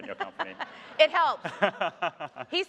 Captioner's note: audience laughing